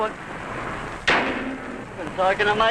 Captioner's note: hood slams